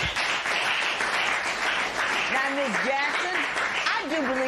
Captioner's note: applause